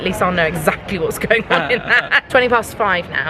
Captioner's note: laughing